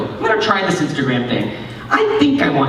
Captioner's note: none